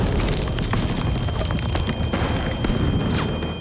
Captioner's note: artillery explodes; ringing